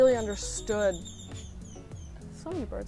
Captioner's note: bird singing